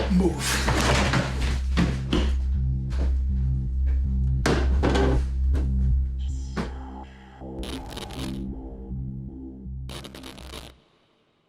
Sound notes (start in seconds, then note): 0.4 Carol thudding; 7.5 static crackling